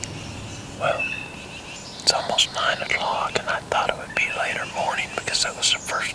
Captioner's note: whispering